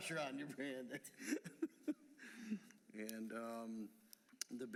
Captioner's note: laughter